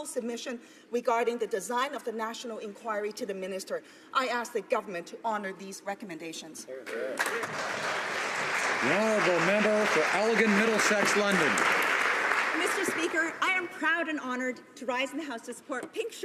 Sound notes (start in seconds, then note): 10.2 applause